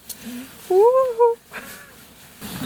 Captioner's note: wooOOOhoo